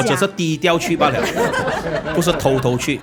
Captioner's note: laughs